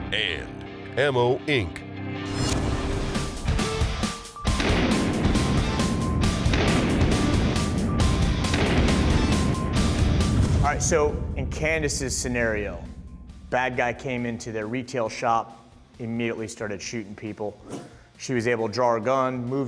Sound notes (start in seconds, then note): 2.6 heavy metal music; 4.6 gun fire